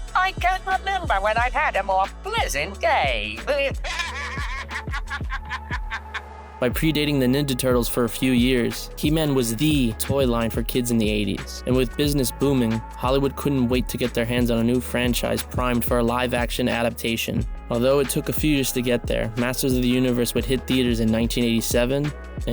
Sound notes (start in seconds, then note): 3.8 Skelly giggles